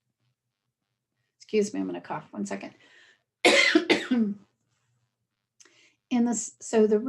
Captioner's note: coughing sound